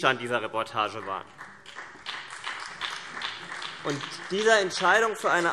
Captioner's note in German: Beifall BÜNDNIS 90/DIE GRÜNEN